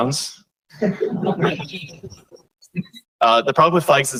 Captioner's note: laughter